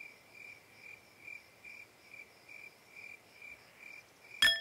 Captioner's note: crickets chirping; metal clinking